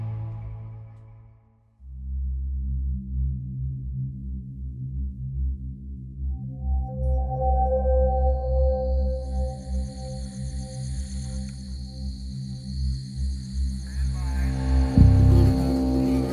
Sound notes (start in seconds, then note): 2.2 dramatic music; 8.8 crickets chirping; 9.6 dramatic music